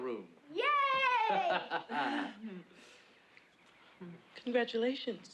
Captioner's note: laughs